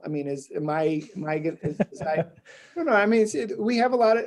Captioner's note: laughing